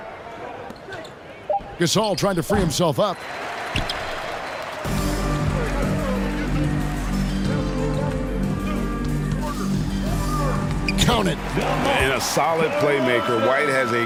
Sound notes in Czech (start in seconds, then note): 8.1 Potlesk